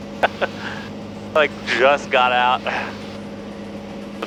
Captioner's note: laughs